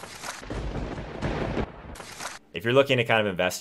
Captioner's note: thunderbolt strikes